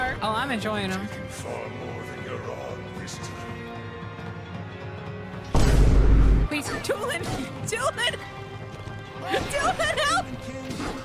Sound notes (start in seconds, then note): 5.5 Vine Boom